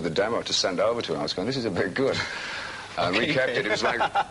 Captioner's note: laughs